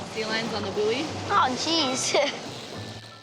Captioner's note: chuckles